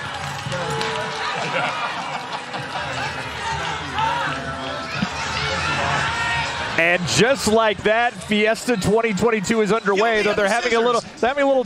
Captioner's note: applause